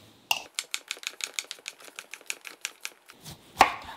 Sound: knife tapping

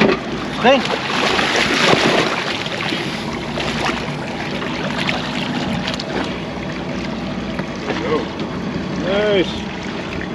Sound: fish splashing

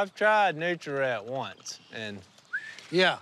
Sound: whistles

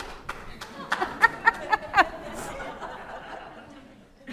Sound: audience laughing

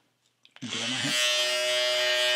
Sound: shaver buzzing

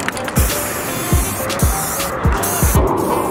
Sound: spraying

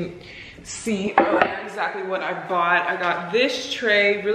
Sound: board clack

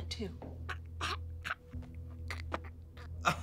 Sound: dragon coughs violently

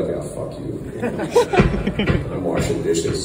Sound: crowd laughter

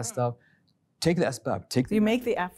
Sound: speaking Arabic

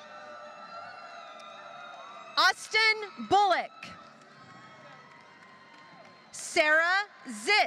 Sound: applause

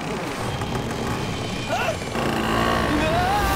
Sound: grunting

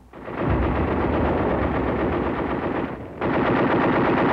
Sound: machine gun fire

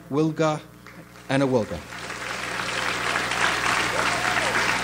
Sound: audience applauds

